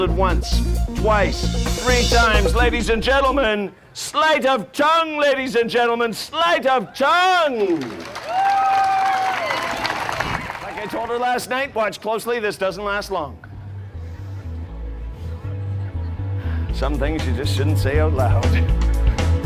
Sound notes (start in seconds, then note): 7.5 audience cheering and applauding; 13.7 funky music; 19.2 upbeat music